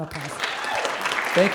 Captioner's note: applause